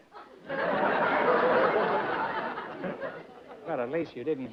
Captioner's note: laughter